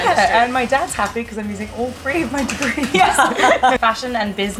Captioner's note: laughter